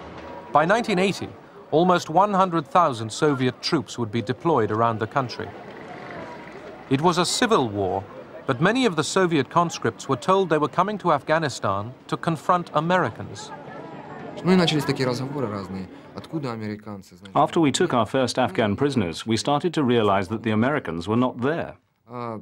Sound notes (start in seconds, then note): 13.6 man speaking Russian